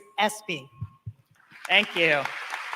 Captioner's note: applause